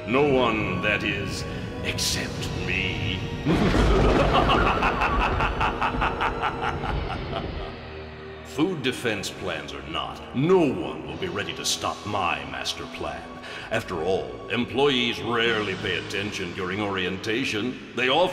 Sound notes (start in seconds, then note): 3.4 evil laughter